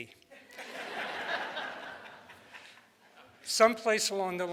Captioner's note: audience laughs